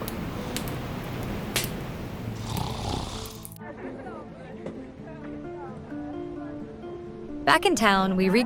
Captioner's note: Jack snoring